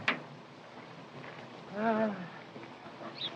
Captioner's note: sigh